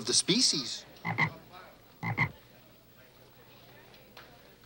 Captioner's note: Gus croaks